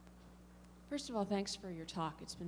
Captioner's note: voiceover